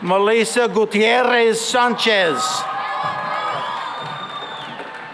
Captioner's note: cheering and applause